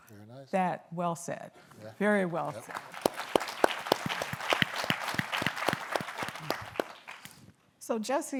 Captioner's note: applause